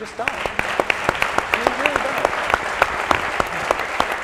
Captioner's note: applauding